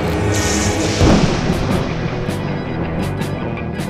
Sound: thunder booming

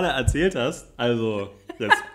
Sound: laughs

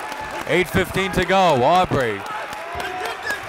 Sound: applauding and cheering

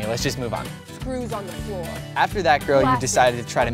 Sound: talking in background

